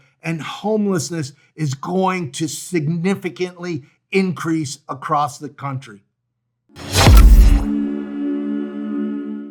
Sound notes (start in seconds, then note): 6.8 graphic whooshing; 6.8 pensive music